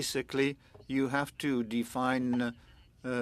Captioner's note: speaking French